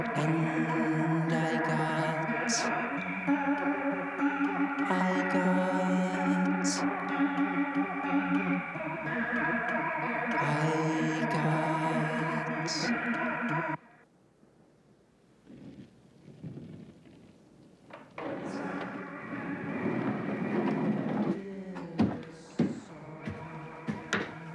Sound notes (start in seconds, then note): 15.5 skates clatter; 18.0 singing continues; 20.8 skates clatter